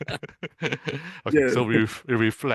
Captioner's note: both laughing